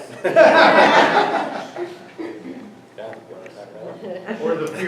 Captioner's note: everyone laughs